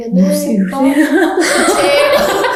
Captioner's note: surprised